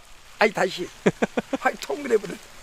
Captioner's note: laughs